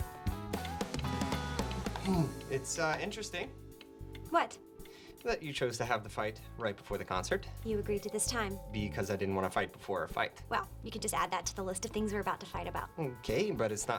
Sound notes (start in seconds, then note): 4.1 ticking